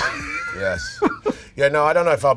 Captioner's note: laughter